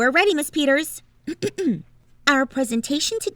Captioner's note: clearing throat